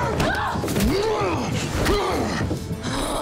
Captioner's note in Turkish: Yumruk sesi